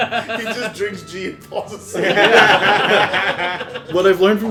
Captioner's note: laughter